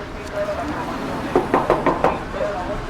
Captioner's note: knocking